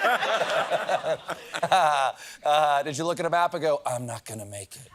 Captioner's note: laughter